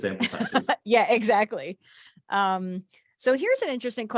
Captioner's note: laughs